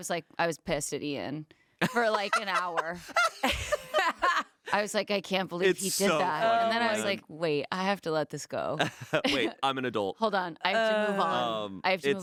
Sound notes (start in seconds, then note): 1.8 laughing